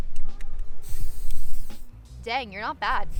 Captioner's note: air whooshes